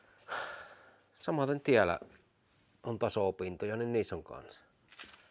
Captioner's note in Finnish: huokaus